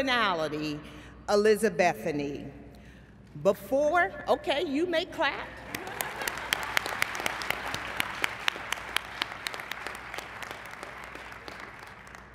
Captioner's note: applause